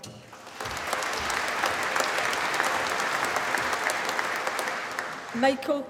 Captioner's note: applause